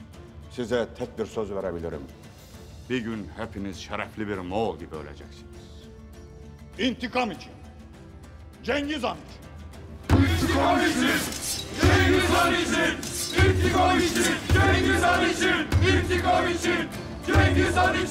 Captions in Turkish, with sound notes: Size tek bir söz verebilirim. Bir gün hepiniz şerefli bir Moğol gibi öleceksiniz. İntikam için! Cengiz Han için! İntikam için! Cengiz Han için! (Kılıç çekme sesi) (Bendir sesi) İntikam için! Cengiz Han için! İntikam için! Cengiz Han için!